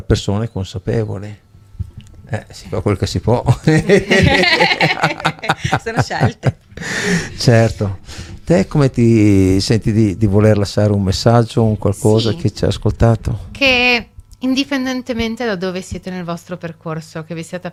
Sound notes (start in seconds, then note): 3.5 laughs